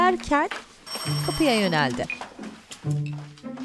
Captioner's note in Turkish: Kapı zili sesi